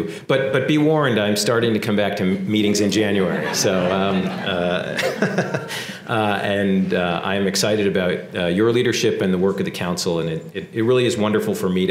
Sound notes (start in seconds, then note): 3.2 laugh